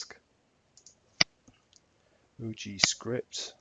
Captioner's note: mouse clicking